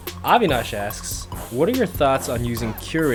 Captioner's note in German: Voice-over